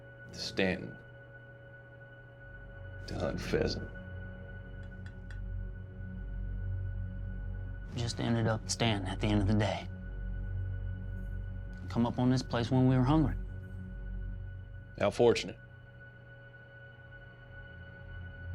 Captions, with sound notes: TO STANTON TO HUNT PHEASANT? WE JUST ENDED UP IN STANTON AT THE END OF THE DAY. WE COME UP ON THIS PLACE WHEN WE WERE HUNGRY. [SAYS SARCASTICALLY] HOW FORTUNATE.